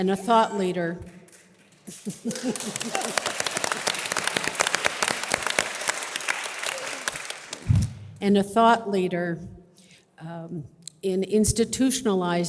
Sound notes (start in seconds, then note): 1.8 audience applause; 1.9 laughs